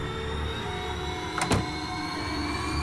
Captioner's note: door closing